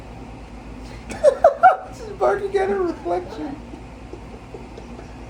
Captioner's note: laughs; all laughing